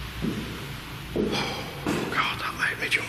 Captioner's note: sighing